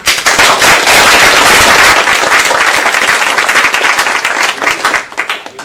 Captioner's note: applause